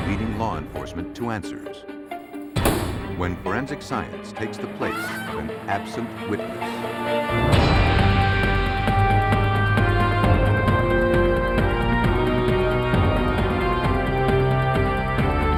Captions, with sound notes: leading law enforcement to answers. When forensic science takes the place-- [scream] --of an absent witness. [theme music]